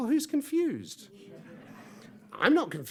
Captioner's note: audience laughs